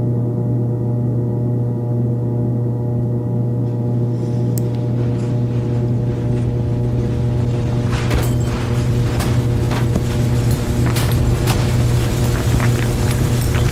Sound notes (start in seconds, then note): 8.1 roof fan spinning